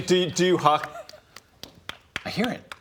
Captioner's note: sound almost, but not quite, entirely unlike hooves